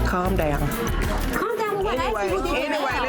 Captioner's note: overlapping chattering